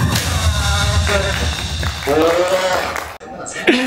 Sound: applause

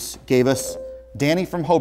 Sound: buzzer

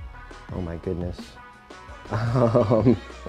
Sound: laughing

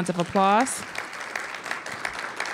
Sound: applause

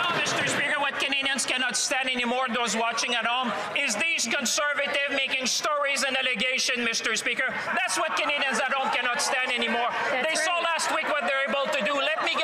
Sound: some Applause

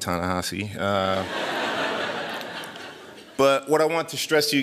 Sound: laughter

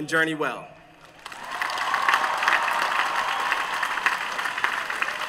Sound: cheers and applause

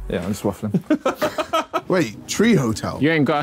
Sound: all laughing

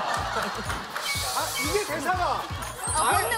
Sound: hissing

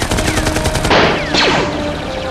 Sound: gunfire; shotgun blast

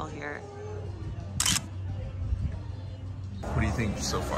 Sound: camera flash shutters

